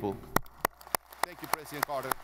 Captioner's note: audience applauding